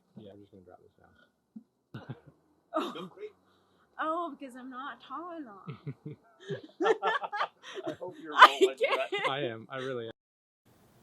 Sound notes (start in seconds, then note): 2.0 laughs; 5.6 laughs